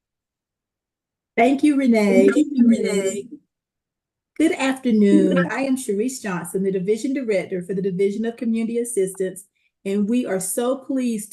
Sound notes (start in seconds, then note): 2.4 audio feedback